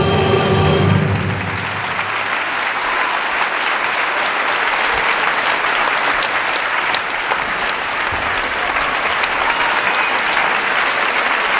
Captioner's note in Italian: Applauso